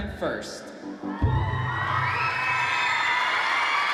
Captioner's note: cheering